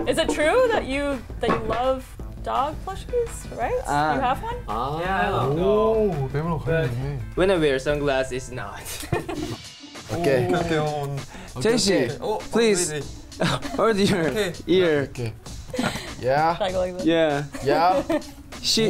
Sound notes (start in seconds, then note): 7.2 speaks in Korean; 8.9 laughs; 9.6 inquisitive music; 11.0 speaks in Korean; 15.6 chuckles